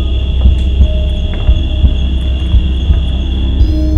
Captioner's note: stairs creaking